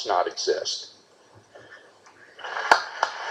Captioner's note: clapping